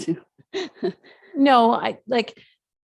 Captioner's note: chuckles